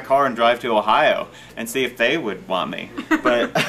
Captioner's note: laughing